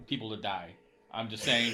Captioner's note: laughing